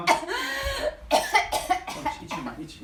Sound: coughs

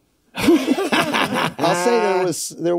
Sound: all laugh

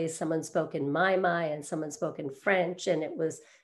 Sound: none

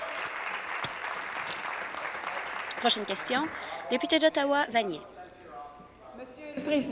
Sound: applause

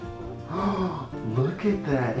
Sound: gasps

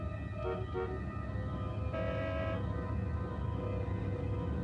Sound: traffic sounds far below

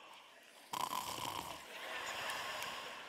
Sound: snoring

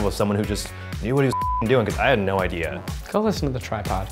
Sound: beep

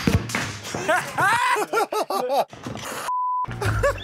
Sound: laughter

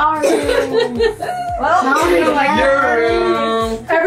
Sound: laughing

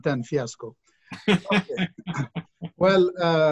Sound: laughs

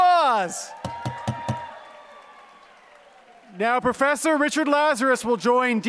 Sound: applause

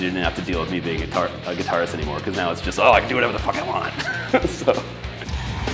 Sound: laughs

